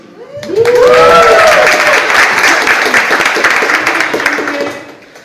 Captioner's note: audience applauds